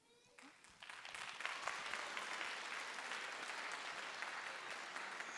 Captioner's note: audience applauding